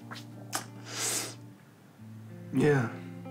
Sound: inhales sharply

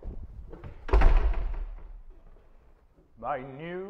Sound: door closing

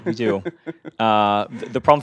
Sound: laugh

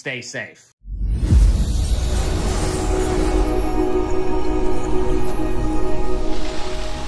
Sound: air whooshing; raucous music

